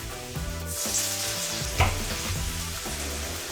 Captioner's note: oil sizzling; upbeat groove music